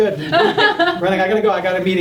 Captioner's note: laughing